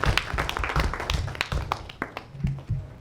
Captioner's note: applause